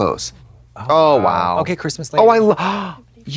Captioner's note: blonde Women in unison